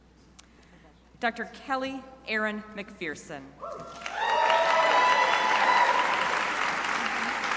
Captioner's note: crowd applauding